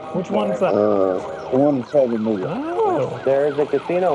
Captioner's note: police sirens louder